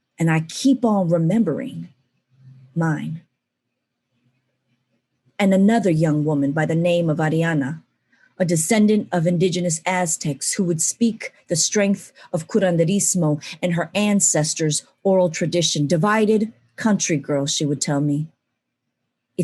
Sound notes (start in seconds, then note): 12.4 non-english speech